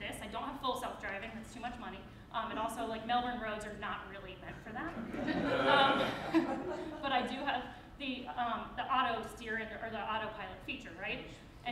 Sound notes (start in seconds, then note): 5.0 crowd laughs